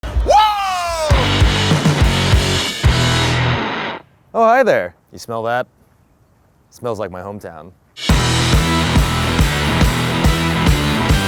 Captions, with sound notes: (yells) (dramatic rock music) - Oh, hi there. You smell that? Smells like my hometown. (upbeat rock music)